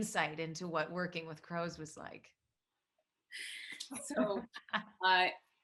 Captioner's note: Sarah laughs